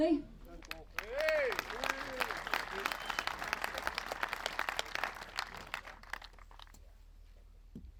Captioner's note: applause